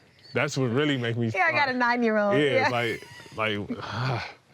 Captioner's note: exhaling